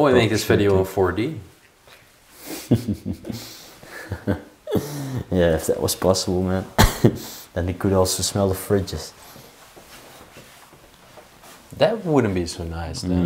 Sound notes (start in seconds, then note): 2.4 chuckling